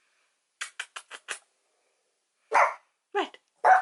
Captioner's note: kissy noises; bark; barks